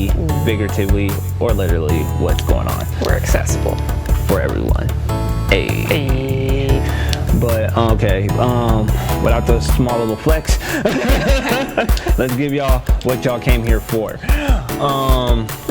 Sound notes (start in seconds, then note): 10.6 both laugh